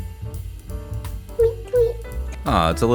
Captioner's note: tweet tweet